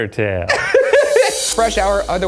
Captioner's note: laughing